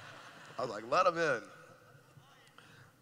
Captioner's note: laughing